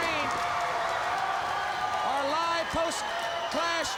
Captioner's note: crowd cheering